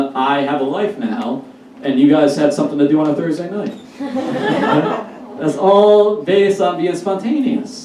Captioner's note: audience Laughs